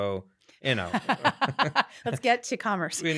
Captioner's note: laughing